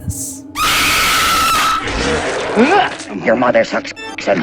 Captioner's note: vomit; screaming